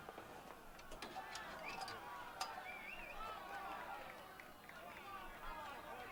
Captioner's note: Los aplausos continúan, distantes